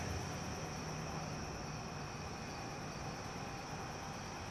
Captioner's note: crickets chirp